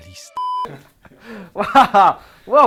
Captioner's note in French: rires